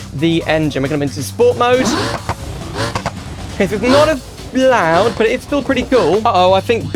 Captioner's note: engine Revs